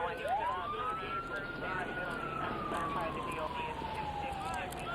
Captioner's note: sirens wailing